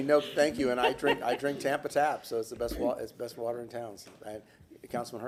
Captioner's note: laughter